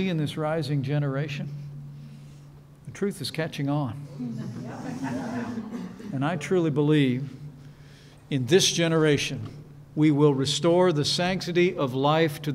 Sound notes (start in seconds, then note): 4.1 laughter